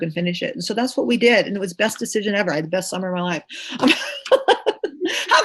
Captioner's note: laughs